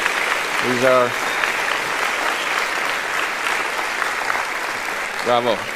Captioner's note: continued applause